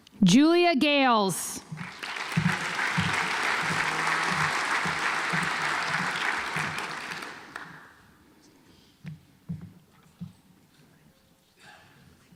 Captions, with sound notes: Julia Gales (audience applauds)